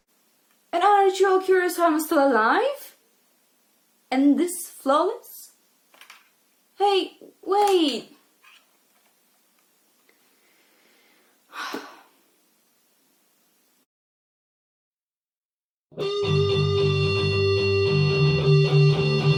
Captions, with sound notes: And aren’t you all curious how I am still alive? And this flawless? Hey, wait! (sigh)